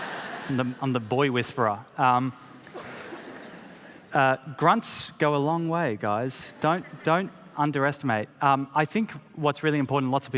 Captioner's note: laughter